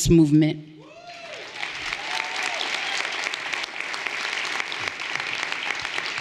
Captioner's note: everyone applauding and cheering